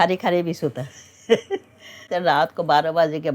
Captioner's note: laughs